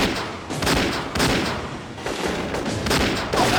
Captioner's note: gunshots